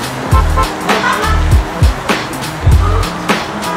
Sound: car horn honks

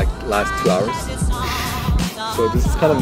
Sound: laughs

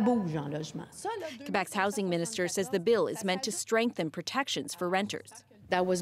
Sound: speaking French

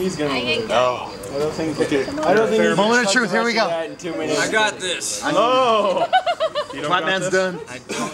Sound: crowd laughs

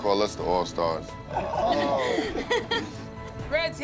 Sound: laughter

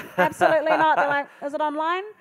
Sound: laughing

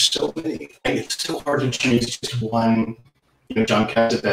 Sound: sound distortion

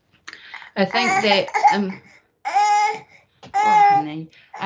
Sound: baby cries

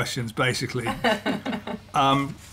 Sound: laughter

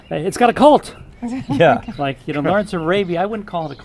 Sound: laughs

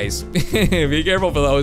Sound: giggles

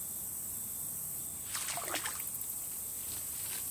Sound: water splashing

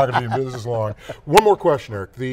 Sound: laughing

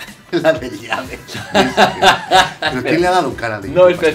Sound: Risas

